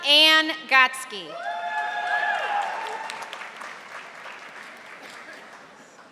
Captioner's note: audience applauding